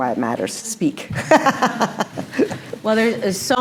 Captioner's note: laughs